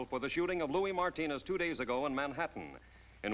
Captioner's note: none